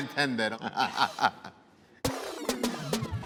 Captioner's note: laughter